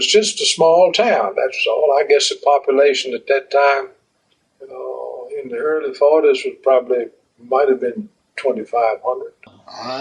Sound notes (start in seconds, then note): none